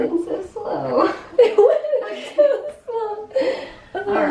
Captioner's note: laughter